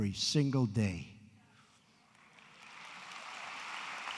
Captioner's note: applause